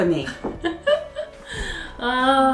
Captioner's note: laughs